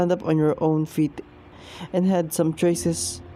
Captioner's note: exhales